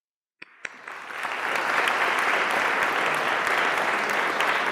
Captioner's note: audience applauding